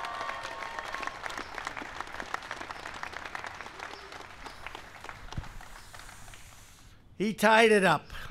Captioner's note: applause